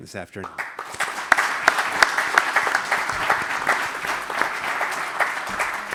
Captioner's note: applause